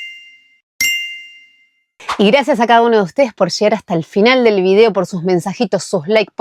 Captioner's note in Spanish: campana